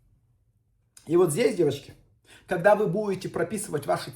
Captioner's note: inhales